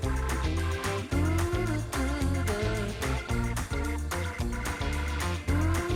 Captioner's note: laughs